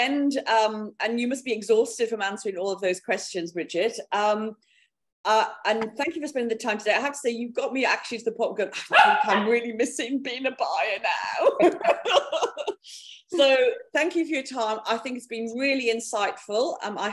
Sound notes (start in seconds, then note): 8.6 speaking faintly; 11.5 laughing